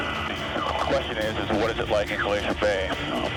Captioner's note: person Over Radio